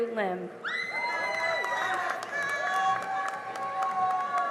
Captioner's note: cheering and applause